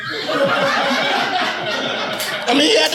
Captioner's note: audience laughing